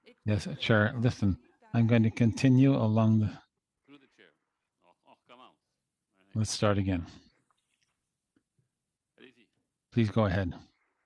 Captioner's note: laughter